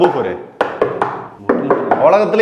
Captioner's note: tapping